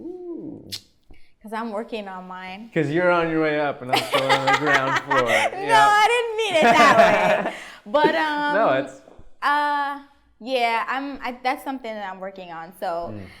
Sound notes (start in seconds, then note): 3.9 laughs